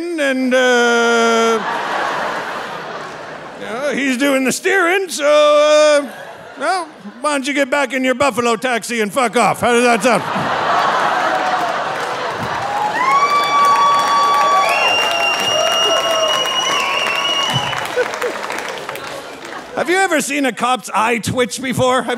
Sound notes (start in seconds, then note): 0.6 audience laughing; 9.6 audience laughing; 13.2 audience cheering and applauding; 17.8 laughing